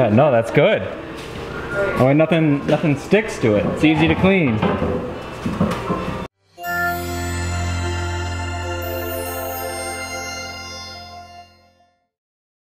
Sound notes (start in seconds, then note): 6.4 chime